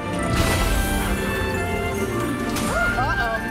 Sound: glass breaking noise

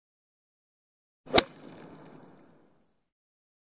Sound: hitting a tennis ball

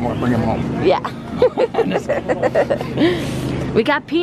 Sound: laughter

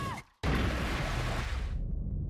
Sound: splashes

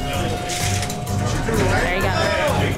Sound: loud chatter

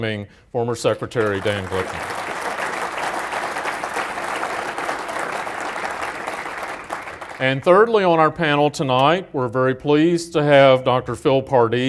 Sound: applause

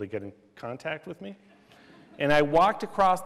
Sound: laughter

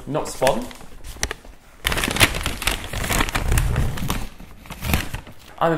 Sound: paper crinkling

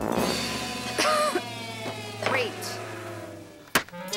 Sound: coughs

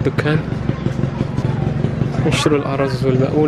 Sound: engine sound

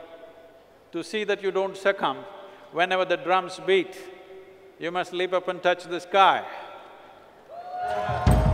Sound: cheering

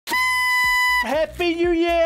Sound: annoying party horn sound

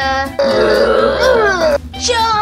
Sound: monsters growl; laughs evilly

